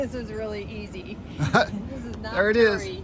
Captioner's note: laughs